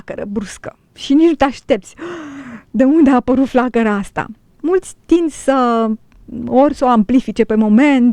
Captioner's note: gasp